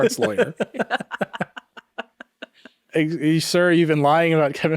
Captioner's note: laughing